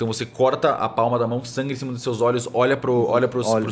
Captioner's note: none